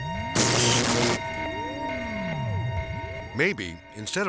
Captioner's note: electricity buzzing